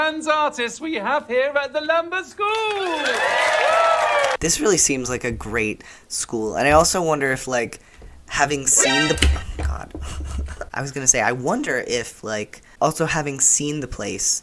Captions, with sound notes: This really seems like a great school. And I also wonder if, like having seen [crash] Oh god I was going to say, I wonder if like also having seen the place